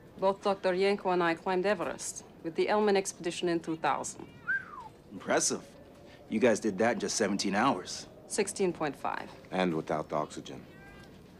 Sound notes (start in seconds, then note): 4.4 whistles